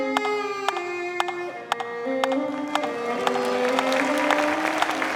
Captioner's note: rhythmic tapping; audience applauding